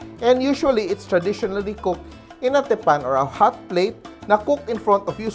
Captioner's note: none